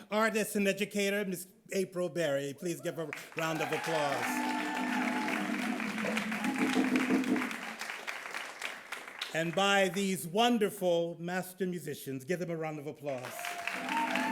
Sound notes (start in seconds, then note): 4.4 audience cheering